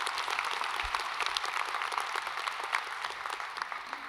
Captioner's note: applause